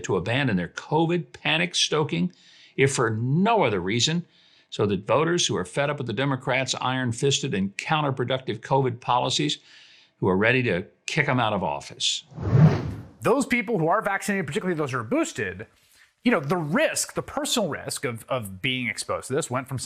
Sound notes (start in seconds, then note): 12.3 air whooshing